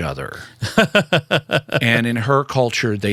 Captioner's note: laughter